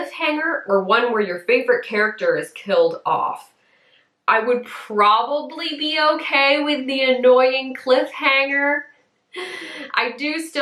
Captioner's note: big breath